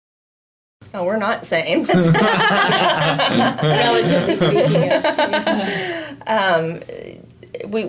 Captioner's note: laughs